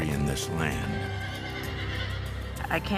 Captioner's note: horse neighs